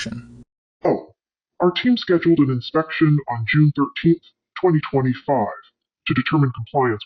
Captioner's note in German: verzerrt